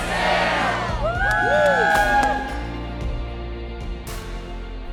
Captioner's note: crowd cheering